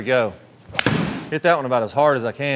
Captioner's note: golf ball hitting